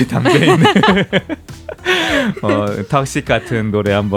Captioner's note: awkward laugh